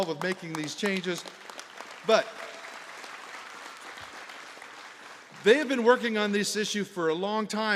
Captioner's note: applause